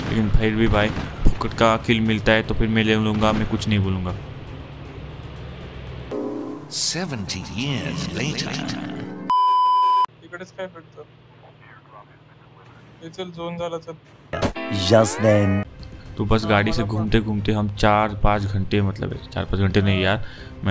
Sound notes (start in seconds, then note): 4.2 Engine's sound